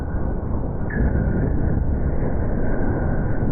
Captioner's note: all shouting; loud impact